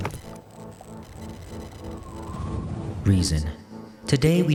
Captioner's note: light thoughtful music; wind whistling